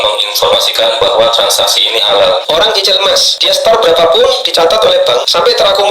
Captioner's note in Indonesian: tertawa